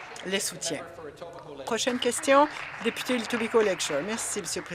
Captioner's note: applause